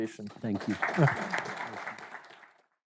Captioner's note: audience clapping